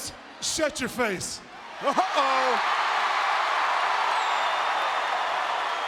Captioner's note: crowd cheering